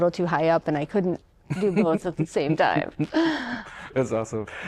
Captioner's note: laughter